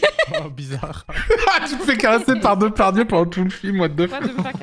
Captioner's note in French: en riant